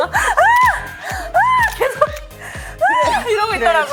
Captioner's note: sound effects for shining laminates